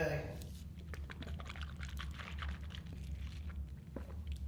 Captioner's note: water swishing